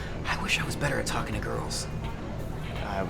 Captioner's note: none